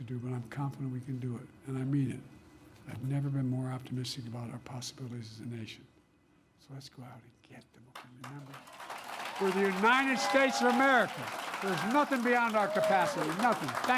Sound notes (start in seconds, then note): 7.9 applause